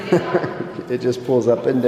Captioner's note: laughing